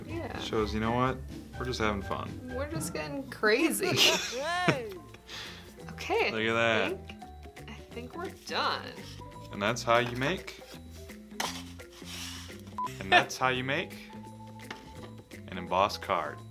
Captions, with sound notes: - Shows you know what, we're just having fun. - We're just getting crazy! [goofy laugh] - Okay I think, - Look at that! - I think we're done. And that's how you make. And that's how you make, an embossed card.